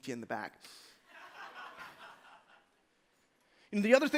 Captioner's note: laughter